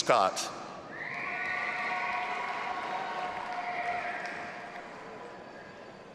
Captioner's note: audience applauding and cheering